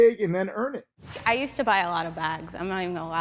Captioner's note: air whooshes